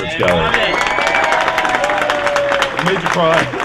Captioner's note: applause